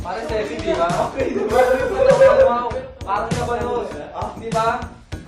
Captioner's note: laughter